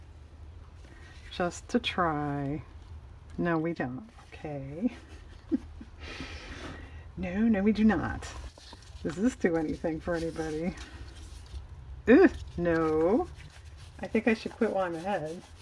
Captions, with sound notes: just to try, no we don't, okay (laughs) no, no we do not does this do anything for anybody? ick, no I think I should quit while I'm ahead